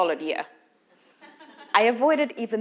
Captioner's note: laugh